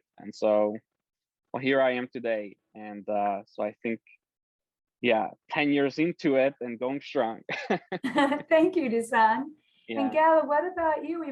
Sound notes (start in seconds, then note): 7.5 giggles